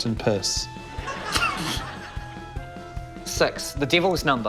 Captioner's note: guffaws